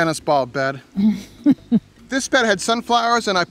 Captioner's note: woman laughs